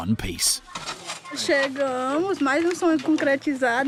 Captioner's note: Portuguese spoken audio